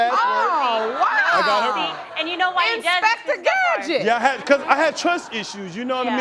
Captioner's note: exclaiming